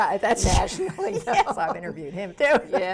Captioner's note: laughs